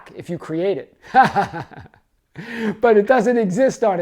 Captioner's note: man laughing